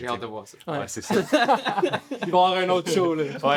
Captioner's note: laughs